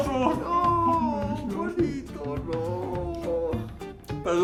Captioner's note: crying in spanish